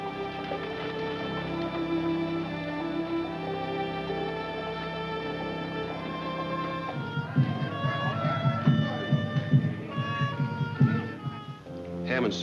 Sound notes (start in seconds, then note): 0.4 gentle music; 7.8 lively music; 7.8 people chattering